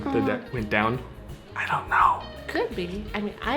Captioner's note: whispers